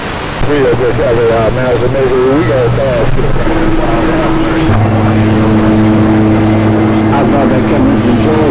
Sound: tones

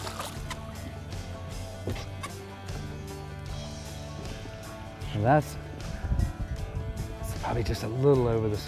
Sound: splashing

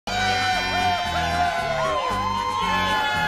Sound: all Cheering; whooping In Excitement

